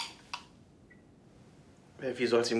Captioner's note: silence